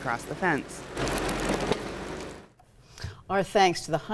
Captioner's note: machinery rumbling